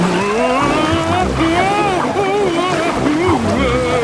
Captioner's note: Daddy Pig shouting